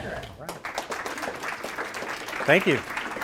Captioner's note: applause